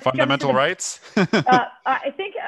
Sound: laughter

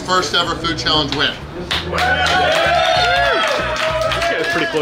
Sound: crowd cheers

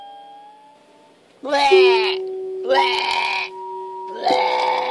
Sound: exclaims loudly

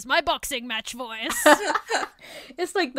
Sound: hosts laugh

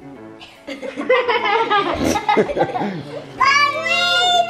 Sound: laughing

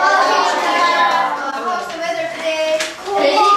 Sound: chattering

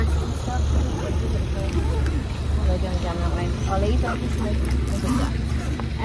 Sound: loud motorbike noise; zipper noise

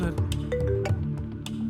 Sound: phone rings

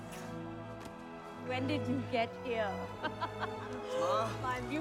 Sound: laughing

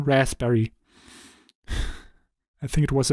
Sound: sigh

